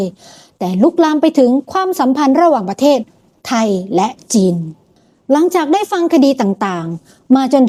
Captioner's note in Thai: เสียงสูดหายใจ